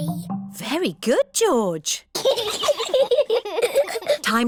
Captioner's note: both giggle